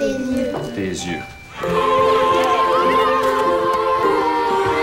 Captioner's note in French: cris de joie